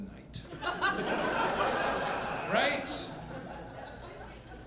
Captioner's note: audience laughing